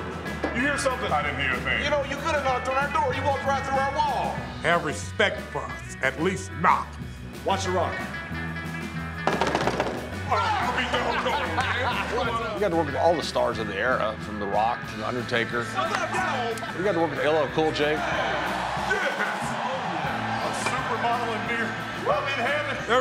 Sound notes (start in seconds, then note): 10.4 laugh